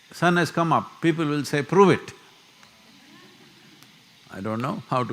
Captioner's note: few laugh